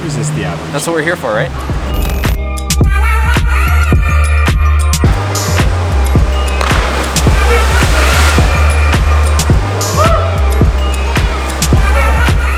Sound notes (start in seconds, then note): 2.2 energetic electronic music; 5.1 splash